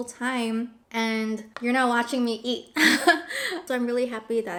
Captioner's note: laughs